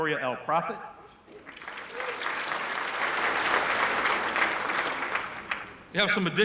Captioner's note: applause